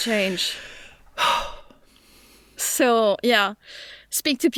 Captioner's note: sighs